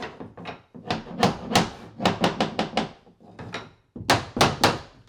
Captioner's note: hammer pounding